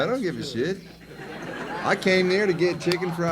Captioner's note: audience laughs